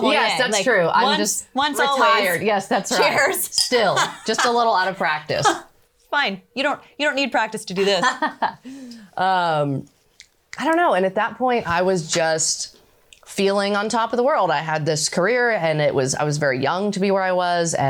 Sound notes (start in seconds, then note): 5.3 chuckles; 7.8 laughs